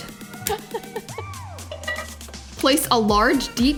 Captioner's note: laughs